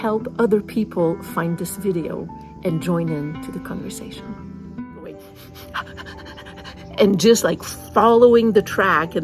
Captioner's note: sniff, sniff, sniff